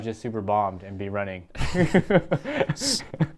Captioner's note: laughs